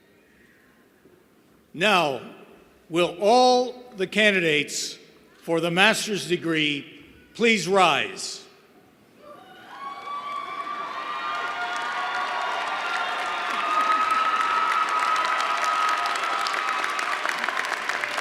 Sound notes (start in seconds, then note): 11.1 cheers and applause